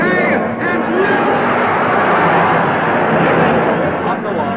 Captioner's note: crowd cheering